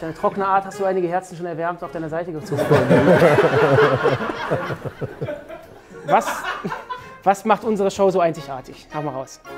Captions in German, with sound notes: Durch deine trockene Art hast du einige Herzen schon erwärmt und auf deine Seite gezogen. (Gelächter) Was ... (Lachen) Was macht unsere Show so einzigartig? Hau raus.